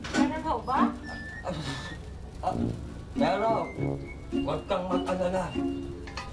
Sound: blows

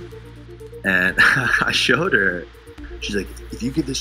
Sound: chuckles

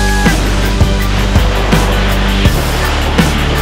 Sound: air whooshing

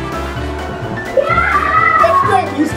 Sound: assistant cheering

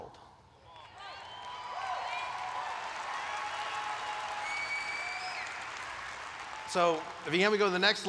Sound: applause

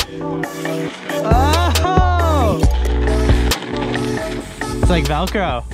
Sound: exclaiming

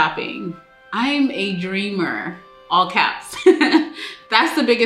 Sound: giggles happily

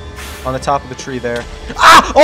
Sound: explosion

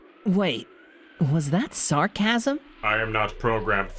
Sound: sarcasm

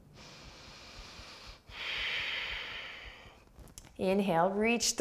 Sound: inhaling and exhaling

